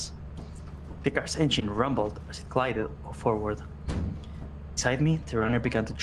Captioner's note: the car’s engine rumbled as it glided forward